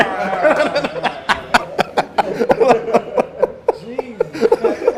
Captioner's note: laughs